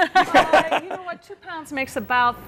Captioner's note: all laughing